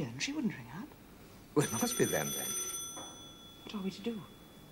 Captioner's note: telephone rings